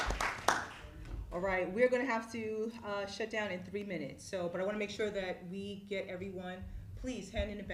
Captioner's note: applause